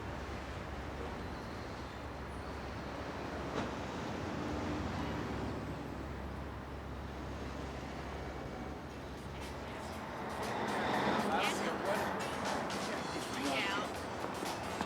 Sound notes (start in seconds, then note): 9.2 chattering; 10.3 funky music